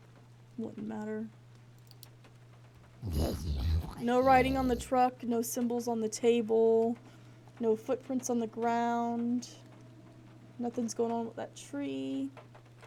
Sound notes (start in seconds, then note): 3.0 guttural Noises